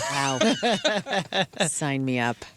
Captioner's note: laughing